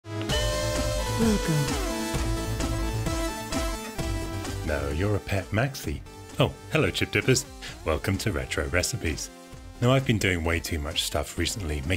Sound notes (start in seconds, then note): 0.4 techno music; 1.5 electronic Voiceover